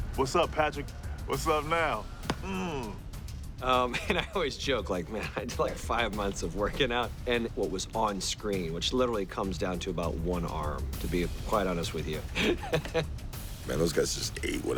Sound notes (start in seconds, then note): 3.7 chuckles; 12.2 laughing